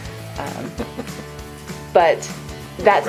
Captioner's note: laughs